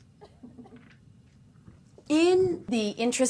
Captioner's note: laughter